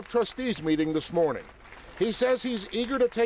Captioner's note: applause